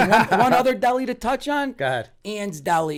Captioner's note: laughter